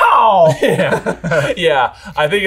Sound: laughs

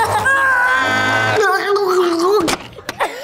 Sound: children screaming; screaming; laughing

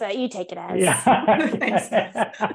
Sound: all laughing

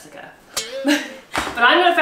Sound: guitar string breaking sound effect

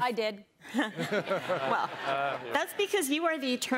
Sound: laughter

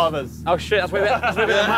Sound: team laughing

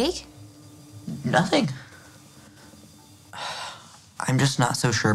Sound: Jake sighs deeply

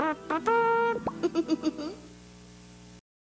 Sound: imitates bugle; giggles

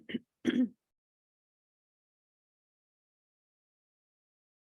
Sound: throat clearing

